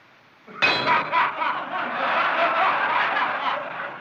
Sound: clangs; laughter

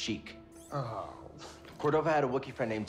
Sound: groan

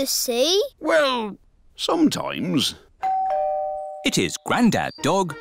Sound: doorbell dings

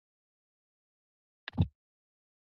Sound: mic thumps

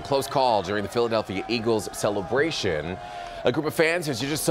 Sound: cheering

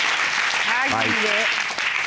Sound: audience applauding

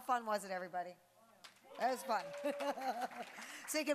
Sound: applause; laughing

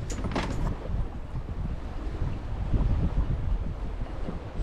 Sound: waves lapping

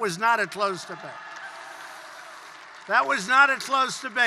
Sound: applause

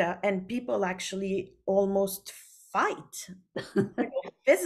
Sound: laughs

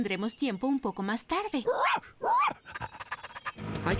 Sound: barking & Panting

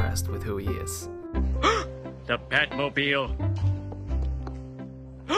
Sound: gasps

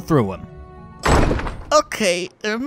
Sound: door slams

